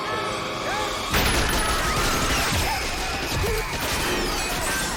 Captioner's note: machine-gun fire